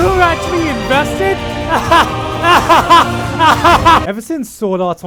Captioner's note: laughing coffin